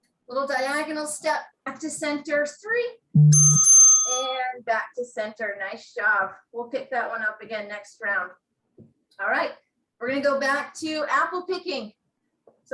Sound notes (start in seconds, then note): 3.2 bell rings